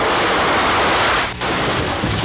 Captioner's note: plane noise